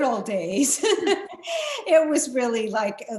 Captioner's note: laughs